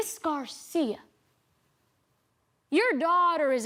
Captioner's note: quietly reads